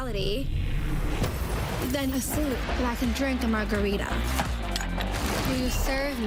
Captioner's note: crash